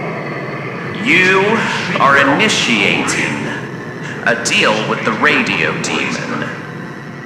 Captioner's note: snap fx, ghostly sounds of a deal fx, loud static fx; Alastor voice distorted and reversed fx